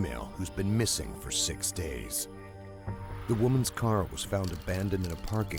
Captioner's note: voiceover